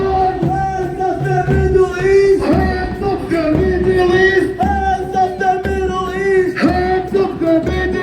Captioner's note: chant